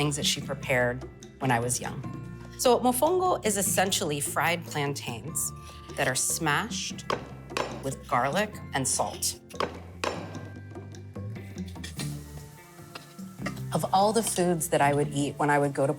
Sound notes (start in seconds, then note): 9.4 pestle clanging